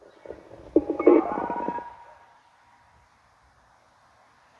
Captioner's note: telephone noise